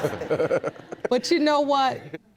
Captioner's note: laughing